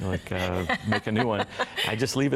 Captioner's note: laughter